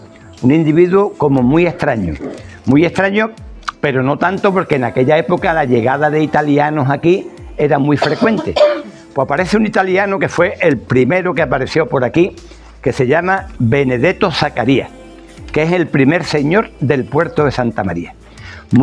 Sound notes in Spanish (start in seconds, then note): 8.0 risas